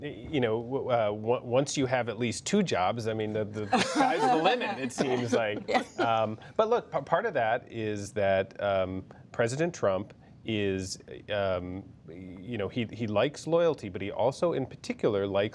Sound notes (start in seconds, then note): 3.6 laughter